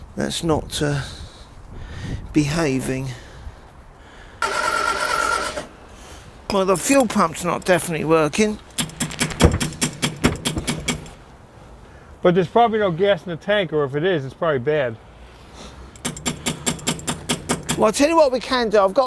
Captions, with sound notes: that's not behaving. (engine rumbling) Well, the fuel pump's not definitely working. (metallic knocking) - But there's probably no gas in the tank or if it is, it's probably bad. (metallic knocking) - Well, I tell you what we can do.